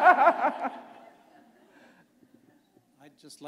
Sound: laughter

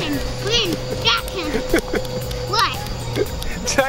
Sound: laughter

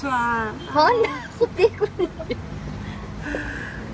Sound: laughing

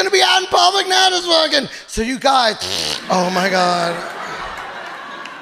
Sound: imitates fart

